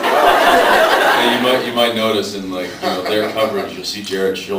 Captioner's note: laughs